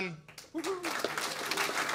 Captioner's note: applause